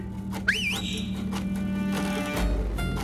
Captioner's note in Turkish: Islık çalıyor